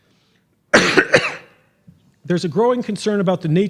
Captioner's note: coughs